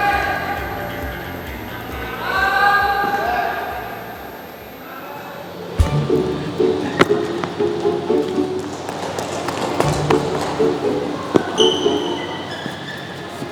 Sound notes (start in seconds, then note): 11.4 playfully